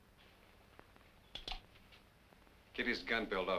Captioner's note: gun clicks